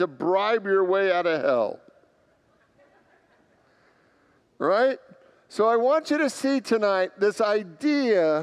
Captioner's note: congregants laugh